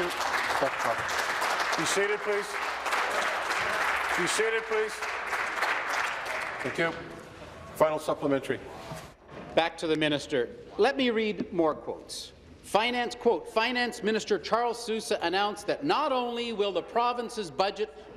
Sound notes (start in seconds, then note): 4.4 applause